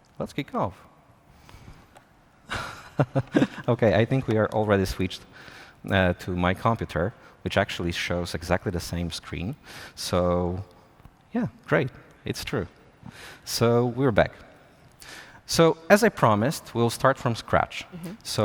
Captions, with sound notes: Let's kick off. [LAUGHS] OK. I think we are already switched to my computer, which actually shows exactly the same screen. So, yeah, great. It's true. So we're back. So as I promised, we'll start from scratch.